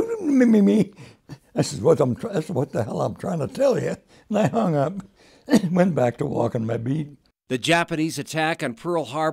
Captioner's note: laughs